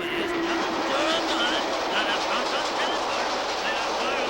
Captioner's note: train roaring